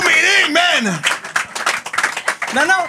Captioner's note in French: applaudissements